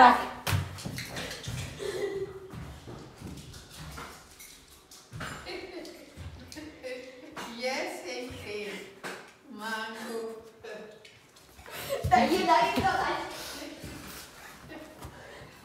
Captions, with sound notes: [great-grandmother, off screen in Serbian]: You're a rascal!